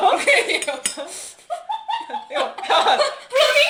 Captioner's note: laughing